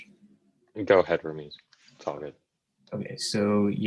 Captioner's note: male Voice